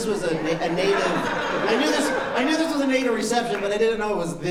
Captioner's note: laughter